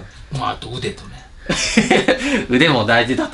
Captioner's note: haha